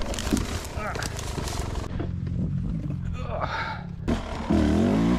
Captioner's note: rider grunting